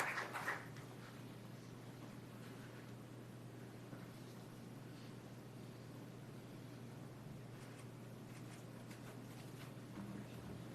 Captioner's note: applause